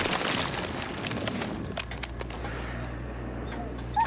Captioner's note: squelching